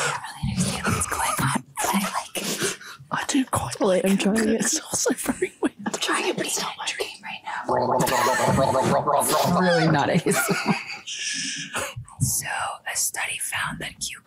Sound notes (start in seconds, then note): 7.6 Alex gargling; 8.0 Jess and Eiza laughing